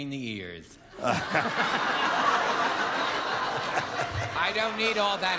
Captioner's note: laughter